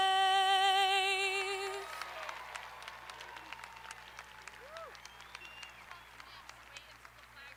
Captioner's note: audience applauding; audience cheering